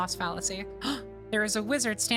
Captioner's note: gasp